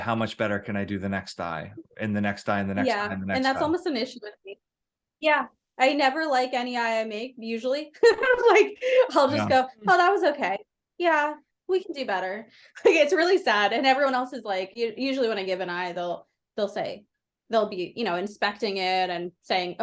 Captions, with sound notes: how much better can I do the next eye, and the next eye and the next eye and the next eye?" Yeah. And that's almost an issue with me. Yeah, I never like any eye I make, usually. (laughs) Like, I'll just go- Yeah. "Oh, that was okay. Yeah, we can do better." Like, it's really sad, and everyone else is like, usually when I give an eye they'll be, you know, inspecting it and saying,